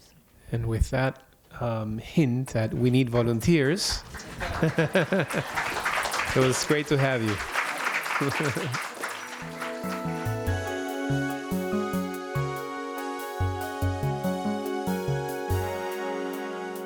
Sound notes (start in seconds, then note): 4.0 applause; 4.0 laughter